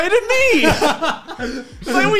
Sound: laughing

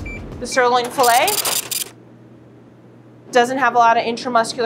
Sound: scale beeps and brrhs

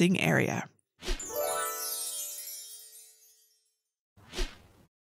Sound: gentle chiming

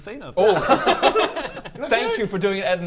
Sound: laughs

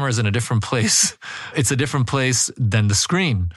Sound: laugh

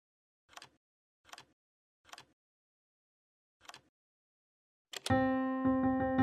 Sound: keyboard typing

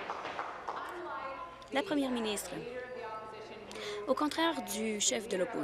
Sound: applause

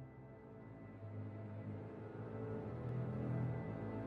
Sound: none

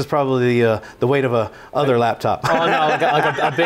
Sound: laughing

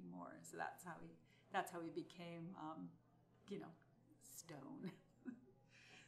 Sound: laughs

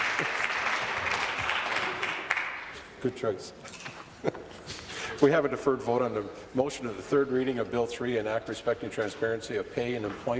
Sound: applause

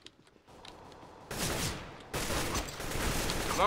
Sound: enemy firing

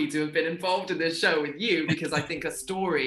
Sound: Russell chuckles

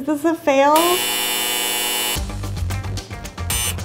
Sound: beep

